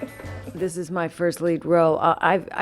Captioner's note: laughter